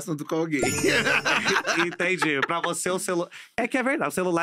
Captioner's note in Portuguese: risos